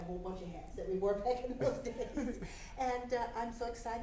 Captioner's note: laughs